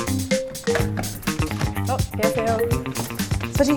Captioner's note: Korean